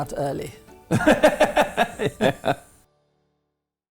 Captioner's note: laughs